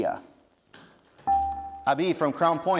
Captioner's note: dinging